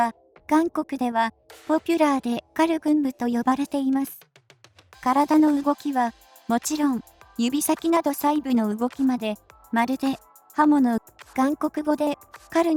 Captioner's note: korean in Korean